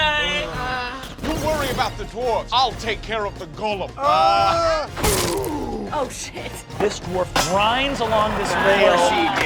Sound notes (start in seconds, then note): 3.9 wordless yelling; 4.8 growling